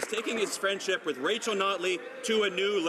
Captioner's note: some Applause